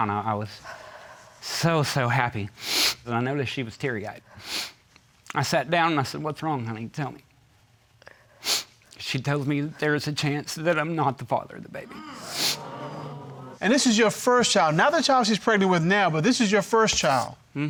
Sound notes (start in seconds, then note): 4.4 sniffles; 11.9 audience gasps